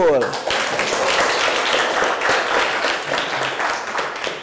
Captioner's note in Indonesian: Tepuk tangan